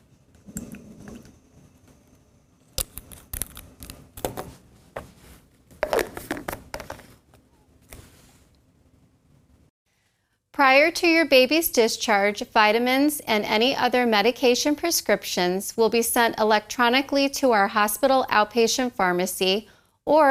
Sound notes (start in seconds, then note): 0.4 syringe emptying into bottle; 2.8 vitamin bottle twisting shut; 5.8 bottle twisting shut